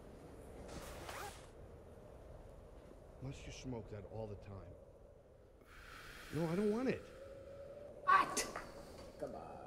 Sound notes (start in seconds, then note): 0.8 zipper zips